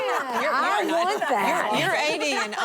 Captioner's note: laughter